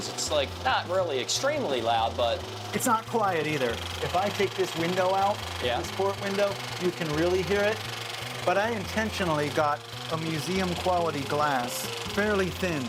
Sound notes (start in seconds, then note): none